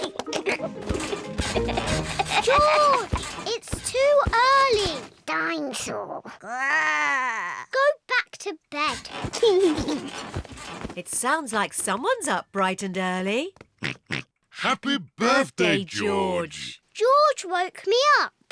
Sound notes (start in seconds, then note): 0.8 continues to laugh; 6.3 growls; 8.9 laughs; 13.8 oinks